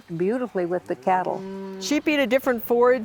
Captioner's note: cows mooing